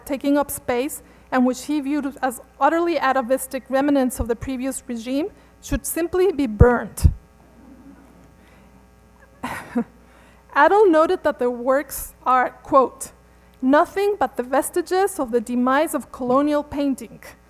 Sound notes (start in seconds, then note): 7.1 laughter